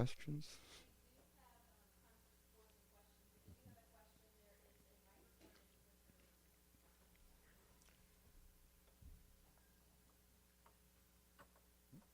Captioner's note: silence